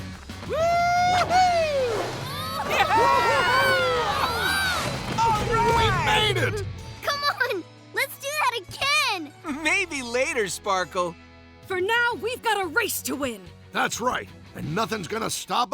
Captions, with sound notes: Whoo-hoo! [yelling and cheering] - All right! - We made it! Come on, let's do that again! Maybe later, Sparkle. For now, we've got a race to win. That's right, and nothing's going to stop us,